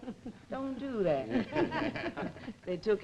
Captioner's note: group laughing